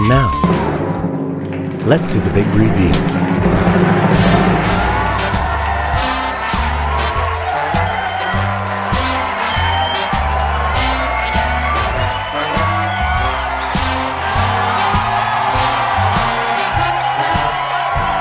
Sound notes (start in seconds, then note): 3.0 applause